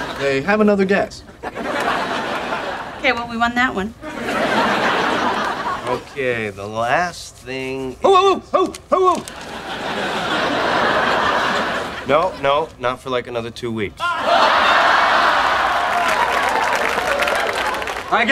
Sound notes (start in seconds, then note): 0.0 audience laughing; 9.3 audience laughing; 14.1 audience laughing; 14.3 audience applauds